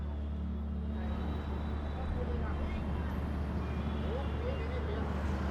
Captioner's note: indistinct traffic noise